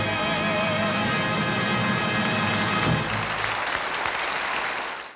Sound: audience applauding

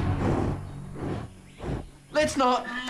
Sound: rhino snorts

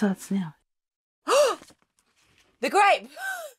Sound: gasps

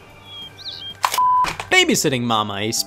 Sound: beep

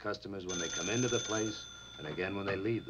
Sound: phone ringing

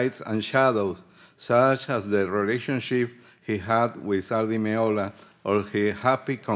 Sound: speaking Spanish

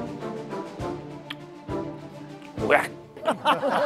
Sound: sipping

